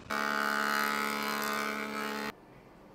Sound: machine buzzing

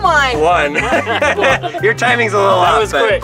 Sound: laughing

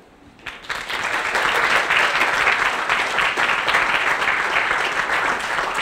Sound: applause

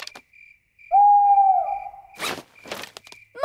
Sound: hooting

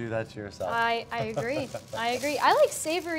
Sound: laughs

